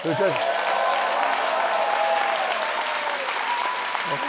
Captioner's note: audience applauds